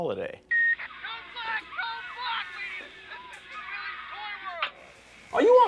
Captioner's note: man talking indistinctly on radio